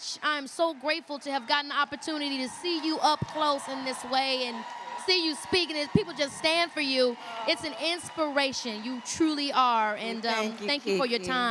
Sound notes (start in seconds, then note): 3.5 applause